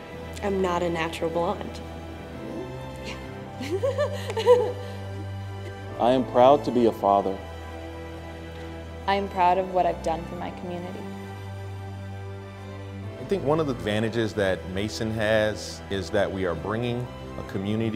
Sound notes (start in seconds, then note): 3.2 whispers; 3.6 laughter